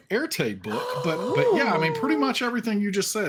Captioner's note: gasping